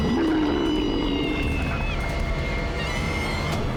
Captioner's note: roar